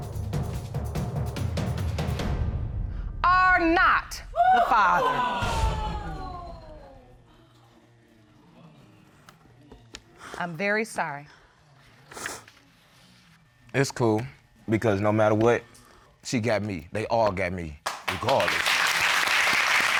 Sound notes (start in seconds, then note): 4.6 audience exclaims; 17.8 audience applauding